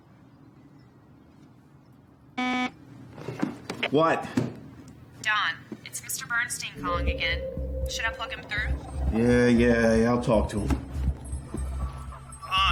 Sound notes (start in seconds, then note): 2.4 phone buzzing